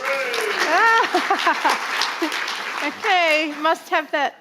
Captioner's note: audience laughing; audience applauding